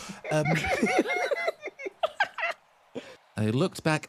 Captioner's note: laugh